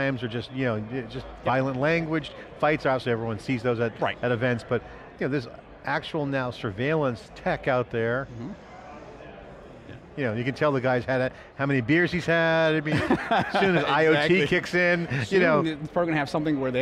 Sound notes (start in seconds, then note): 12.9 laughing